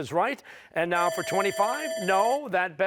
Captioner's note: bell dinging